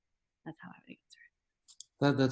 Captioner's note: whispers